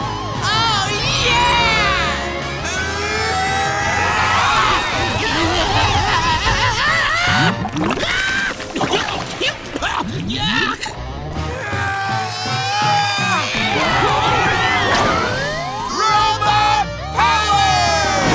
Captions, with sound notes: Oh yeah! [screaming] Yuck! [grunting] Robot power!